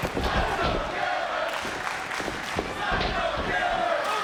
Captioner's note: crowd chanting